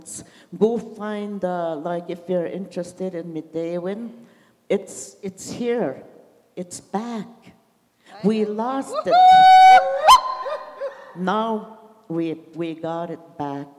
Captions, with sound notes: Go find, uh, like if you're interested in Midewewin, it's, it's here. It's back. We lost it. [audience cheers] Now, we, we got it back.